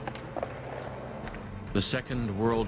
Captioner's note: voiceover